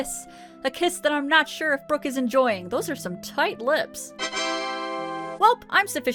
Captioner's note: windows TA DA sound